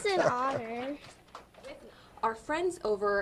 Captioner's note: applause